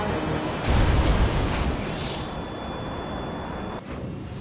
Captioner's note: engine exploding